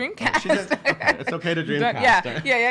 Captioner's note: laughing